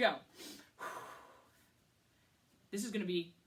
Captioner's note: deeply exhales